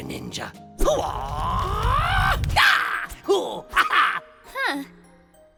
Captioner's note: ninja noises